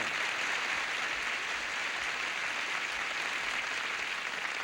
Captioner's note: audience applauding